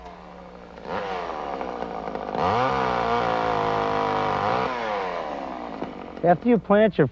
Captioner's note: chain saw sounds